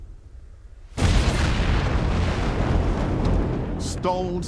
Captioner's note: explosion booming